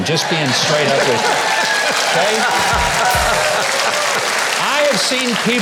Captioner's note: audience cheering